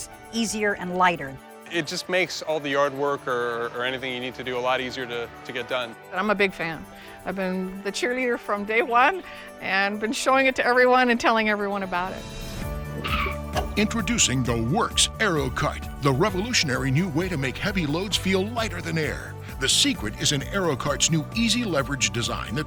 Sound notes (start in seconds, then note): 12.8 tires skidding; 13.9 voiceover